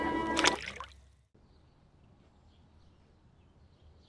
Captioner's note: water splash